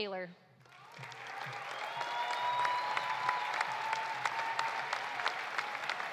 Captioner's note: audience applauding; audience cheering